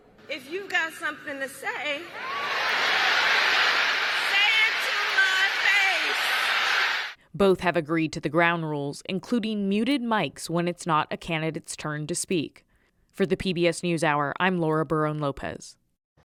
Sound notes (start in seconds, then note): 2.0 cheering; 2.2 applause